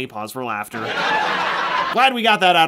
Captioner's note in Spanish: se reproduce la pista de risas